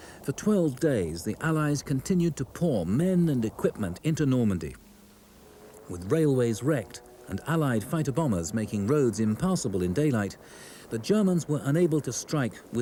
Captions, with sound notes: For 12 days, the Allies continued to pour men and equipment into Normandy. (plane buzzes) With railways wrecked and Allied fighter-bombers making roads impassable in daylight, the Germans were unable to strike